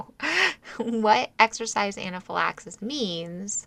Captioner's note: laugh